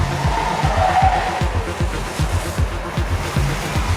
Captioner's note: tires screeching